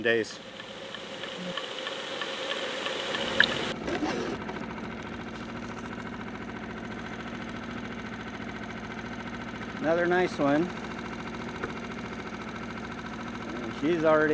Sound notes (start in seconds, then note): 0.4 underwater gurgling; 3.7 boat engine idling